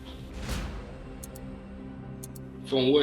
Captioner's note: clock ticking